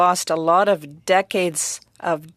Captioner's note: speaking French